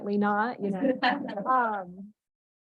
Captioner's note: laughter